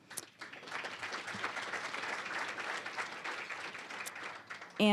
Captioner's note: applause